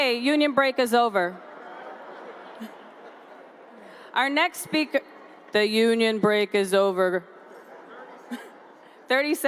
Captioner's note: laughter